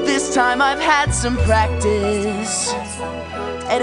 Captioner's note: Pebbles echo last words